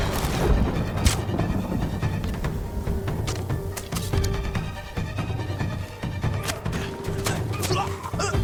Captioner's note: thunder rumbling; dramatic music; grunting